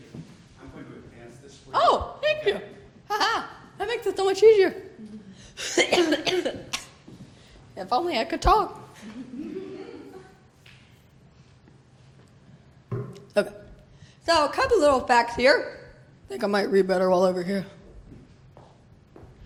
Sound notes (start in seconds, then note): 5.6 coughs; 9.0 laughter